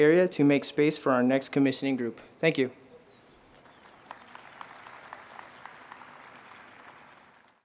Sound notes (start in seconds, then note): 3.5 crowd applauding